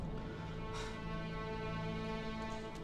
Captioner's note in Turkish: Nefes sesi